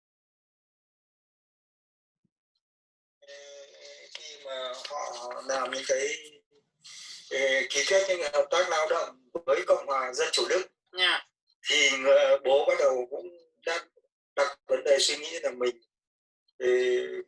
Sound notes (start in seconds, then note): 3.8 spoken Vietnamese